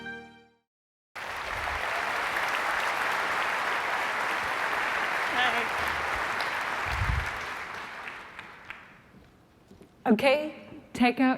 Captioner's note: applause